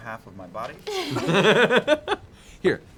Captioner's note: laughter